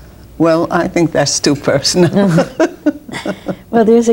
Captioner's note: laughs